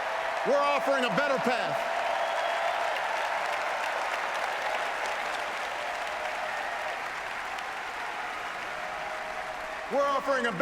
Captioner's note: applause